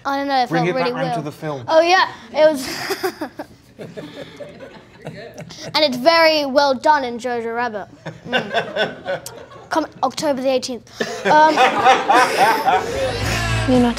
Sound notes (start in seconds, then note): 2.6 laughs; 8.2 all laughing lightly; 11.0 all laughing